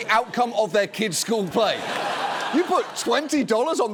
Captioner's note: audience laughs